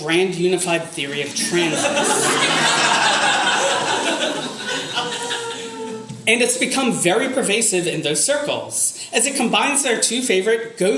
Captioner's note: audience laughter